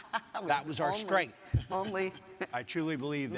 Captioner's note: laughing; laughs